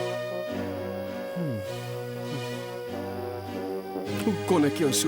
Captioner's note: breathing heavily